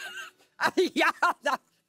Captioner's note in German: lacht